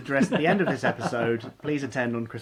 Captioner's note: laughing